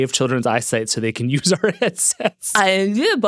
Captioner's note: laughs